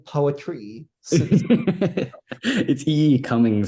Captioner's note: laughs